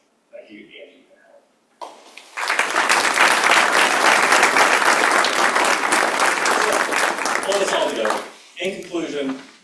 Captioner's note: applause